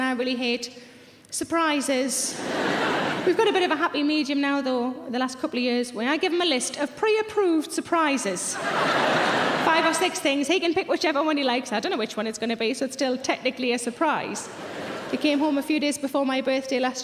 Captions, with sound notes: And I really hate surprises. (audience laughing) We've got a bit of a happy medium now though, the last couple of years when I give him a list of pre-approved surprises. (audience laughing) Five or six things, he can pick whichever one he likes, I don't know which one it's going to be. So, it's still technically a surprise. He came home a few days before my birthday last year.